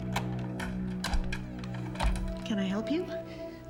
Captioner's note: knocking on door; locks click